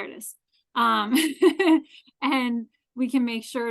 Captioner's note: laughs